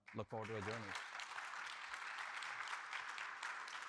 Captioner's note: audience clapping